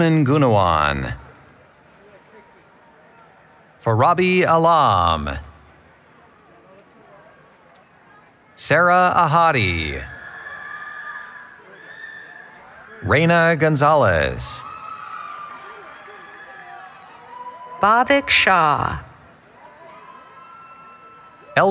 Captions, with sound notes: Jasmin Gunawan. Farabe Alam. Sarah Ahadi. [ Cheering ] Reyna Gonzalez. [ Cheering ] >> Bhavik Shah.